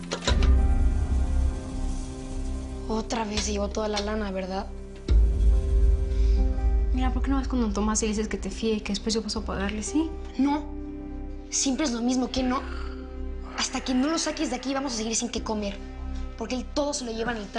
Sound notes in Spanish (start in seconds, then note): none